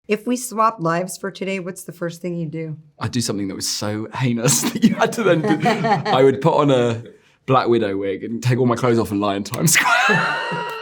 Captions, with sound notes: - "If we swap lives for today, what's the first thing you'd do?" - I'd do something that was so heinous that you had to then- [both laughing] I would put on a Black Widow wig and take all my clothes off and lie in Times Square.